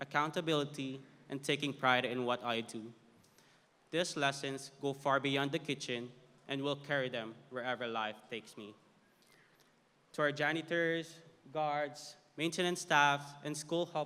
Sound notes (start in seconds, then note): none